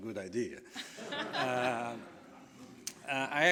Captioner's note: laughing